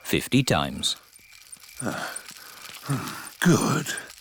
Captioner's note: panting